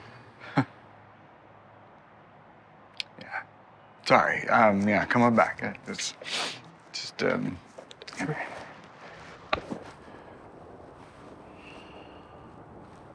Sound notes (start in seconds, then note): 0.4 Tom laughs; 6.2 sniffles